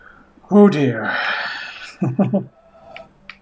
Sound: sighing; chuckles

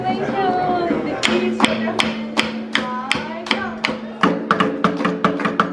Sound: sticks banging rhythmically

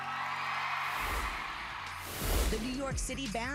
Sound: song ends, cheers and applause

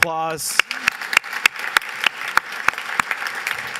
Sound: applause

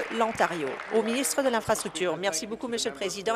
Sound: applause

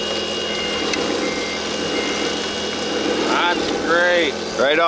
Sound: machine beeping

